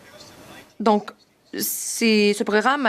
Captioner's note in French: voix de l'interprète